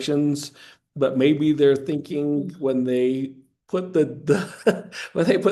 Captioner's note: laughing